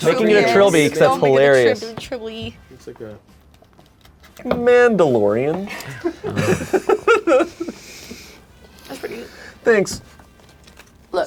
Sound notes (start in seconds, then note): 5.7 laughs